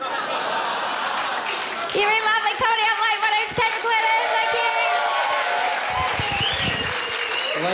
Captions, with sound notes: *crowd laughs* You've been lovely Comedy Up Late, my name's Kate McLennan. Thank you! *crowd cheers*